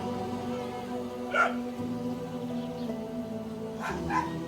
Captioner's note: dogs barking